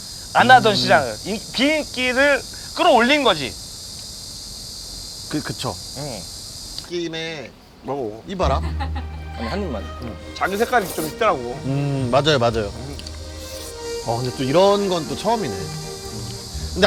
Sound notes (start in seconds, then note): 8.5 swoop